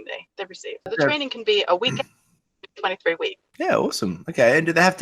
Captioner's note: mic cuts out